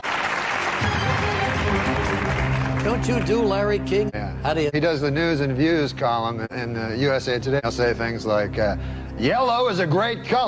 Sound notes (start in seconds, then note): 0.0 applause